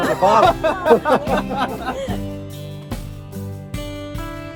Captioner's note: laughter